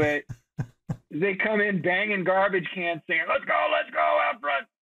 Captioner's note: chuckles